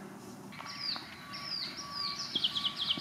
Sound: birds twitter; truck beeps distantly; grass rustles

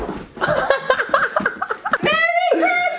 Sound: laughs

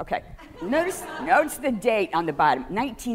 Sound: audience laughing

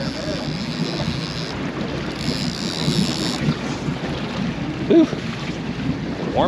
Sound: reel cranking

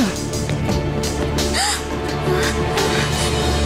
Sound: gasping

